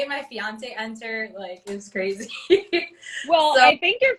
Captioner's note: laughs